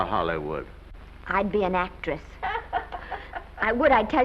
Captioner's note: Mattie laughs